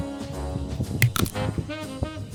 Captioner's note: click